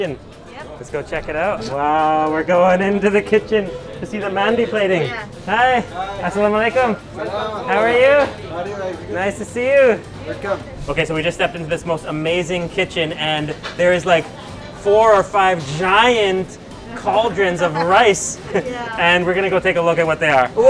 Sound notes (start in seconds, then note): 6.2 speaking in foreign language